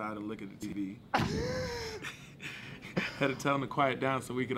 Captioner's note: laughing